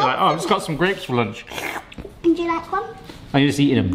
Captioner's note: slurps